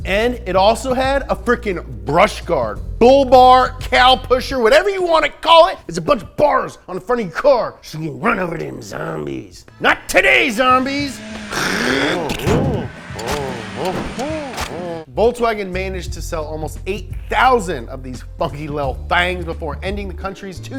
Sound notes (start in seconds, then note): 12.3 thump; 13.1 engine revving; 14.6 squishing